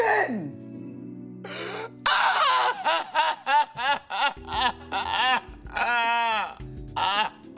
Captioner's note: crying; shouts